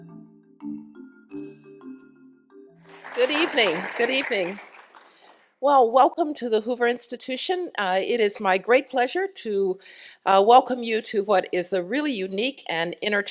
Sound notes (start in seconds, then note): 2.8 applause